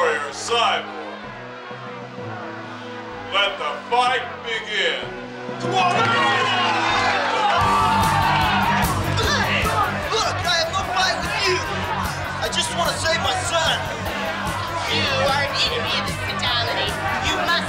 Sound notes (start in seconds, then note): 2.8 upbeat music; 6.6 people cheering